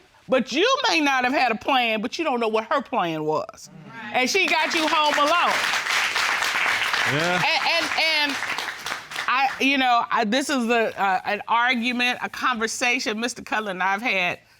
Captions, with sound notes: but you may not have had a plan, but you don't know what her plan was. And she got you home alone. [applause] Yeah. And, you know, this is the-- An argument, a conversation Mr. Cutler and I have had